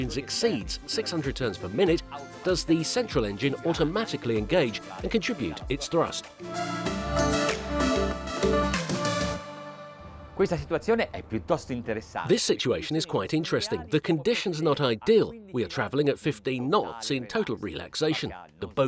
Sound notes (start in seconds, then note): 6.7 electronic music; 10.6 speaking foreign language